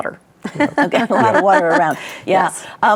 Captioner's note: laughs